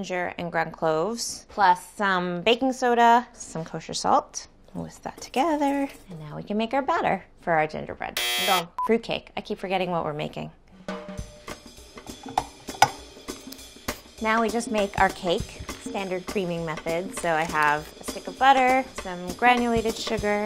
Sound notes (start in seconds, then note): 8.2 buzzer ringing; 10.5 upbeat music